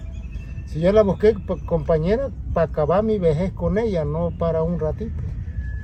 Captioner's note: speaking in foreign language